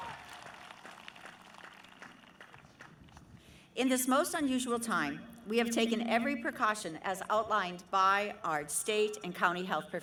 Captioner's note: cheering